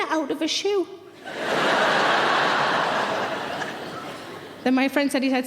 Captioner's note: audience laughing